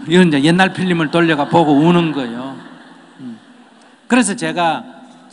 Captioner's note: audience Laughter